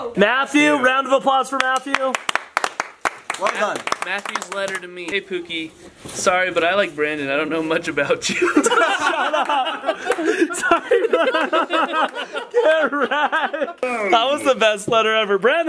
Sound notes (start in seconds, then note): 1.6 clapping; 8.2 laughter